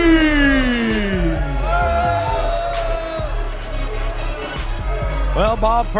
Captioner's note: crowd booing; intense music